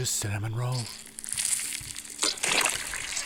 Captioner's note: squishy, gooey sounds reminiscent of child birth